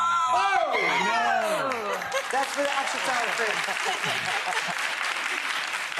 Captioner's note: audience and Rachael Ray cheering